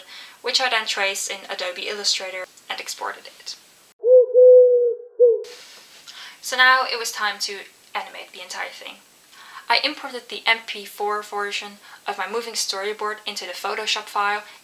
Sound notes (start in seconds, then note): 4.0 pigeon noise